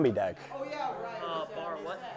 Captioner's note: gamers loudly talking